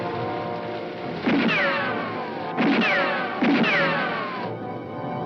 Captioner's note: guns firing